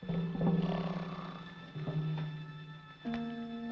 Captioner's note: snoring